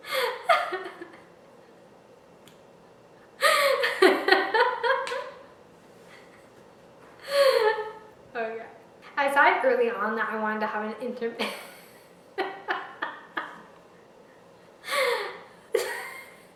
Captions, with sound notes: Okay...I decided early on that I wanted to have an intimate-- [continued hysteria]